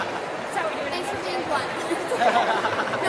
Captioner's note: voiceover; man laughs